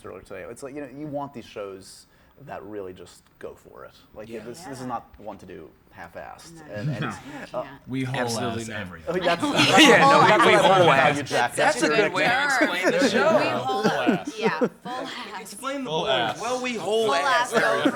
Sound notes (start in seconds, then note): 7.5 laughs